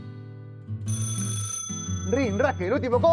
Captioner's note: buzzer